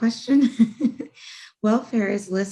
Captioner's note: chuckles